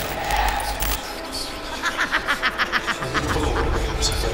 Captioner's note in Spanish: Risa malvada